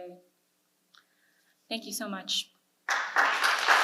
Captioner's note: audience applause